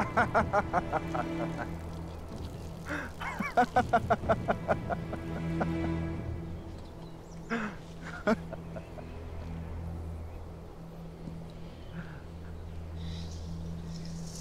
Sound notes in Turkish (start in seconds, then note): 3.2 Kahkaha sesleri; 8.0 Kahkaha sesleri